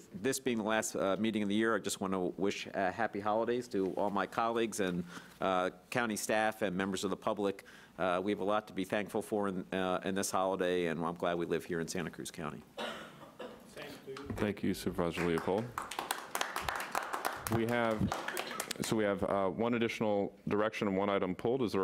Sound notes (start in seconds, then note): 15.2 audience applauding